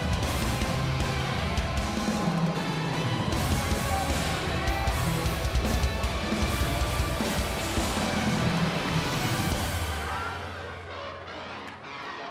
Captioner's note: crowd cheering